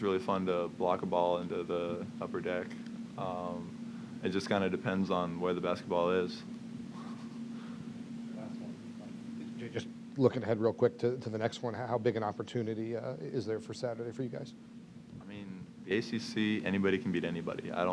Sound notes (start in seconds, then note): 6.9 laughs